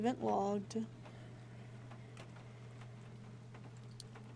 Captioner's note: rhythmic Huffing